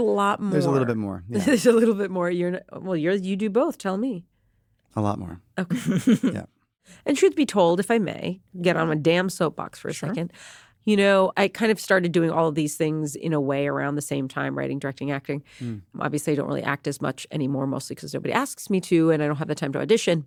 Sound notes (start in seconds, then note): 2.2 chuckles; 5.7 chuckles